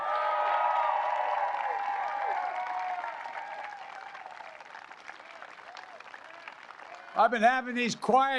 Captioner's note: applause